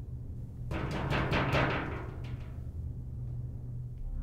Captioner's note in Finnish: Vaativaa koputusta